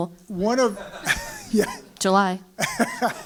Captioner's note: laugh